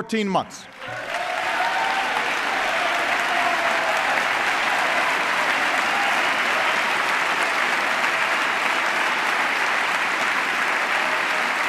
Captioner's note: applause